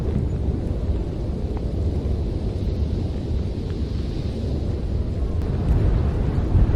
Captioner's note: wind blowing